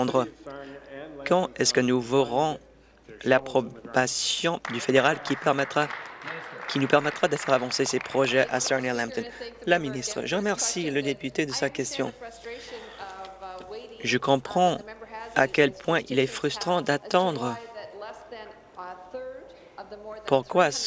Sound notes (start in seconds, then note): 9.0 applause